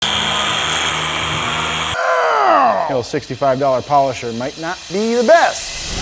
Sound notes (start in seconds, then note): 0.2 polisher grinding; 1.9 grunting